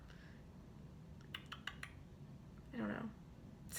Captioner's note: tongue smacking